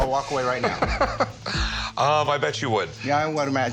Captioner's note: laughs